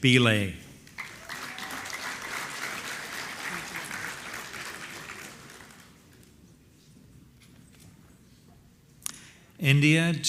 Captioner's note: applause